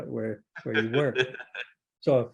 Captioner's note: laughing